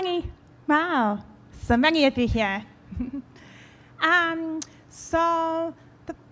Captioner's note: laughs